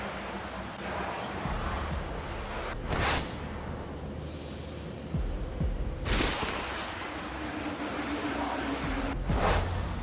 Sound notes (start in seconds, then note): 0.0 whooshing; 3.5 whooshing; 6.0 whooshing